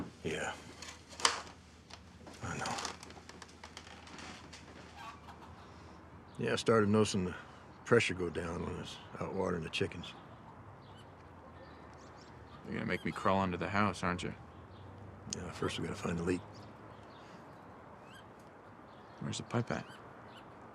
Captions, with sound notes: - Yeah, I know. (chickens squawking) Yeah, I started noticing the pressure go down when I's out watering the chickens. - You're gonna make me crawl into the house, aren't you? - Yeah, first we gotta find the leak. - Where's the pipe at?